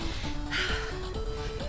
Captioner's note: exhales; inhales